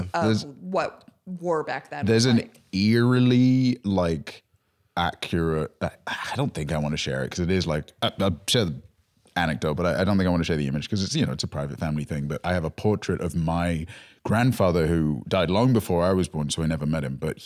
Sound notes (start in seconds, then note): none